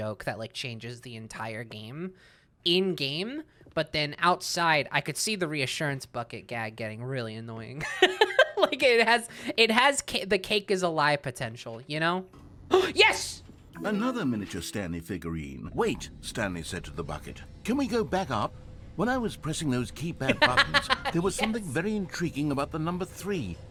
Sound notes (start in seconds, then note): 7.7 laughing; 12.3 gasps; 20.2 laughs